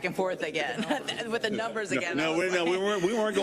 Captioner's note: laugh